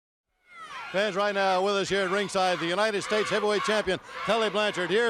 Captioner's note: crowd cheering